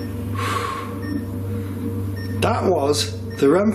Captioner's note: exhaling